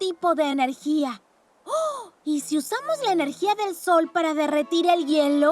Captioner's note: gasps